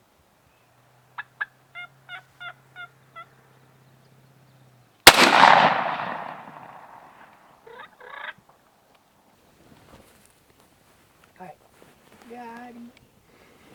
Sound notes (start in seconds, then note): 1.7 turkey yelps; 5.0 gun shot